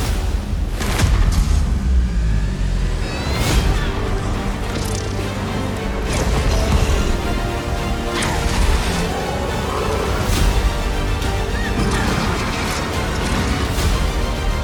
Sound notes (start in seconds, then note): 1.2 music slows; 9.0 roaring